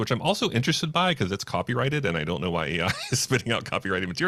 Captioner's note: laughs